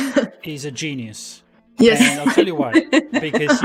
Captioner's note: laughs